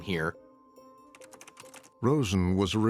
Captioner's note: keyboard keys clacking